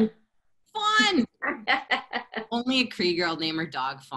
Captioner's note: laughter